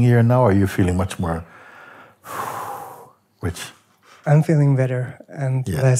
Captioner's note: entspanntes Ausatmen